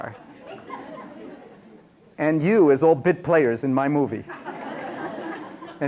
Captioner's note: laughter